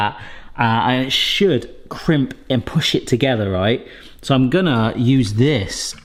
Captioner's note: none